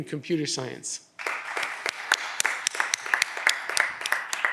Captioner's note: audience applause